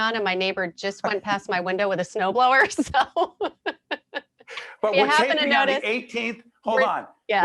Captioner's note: laughing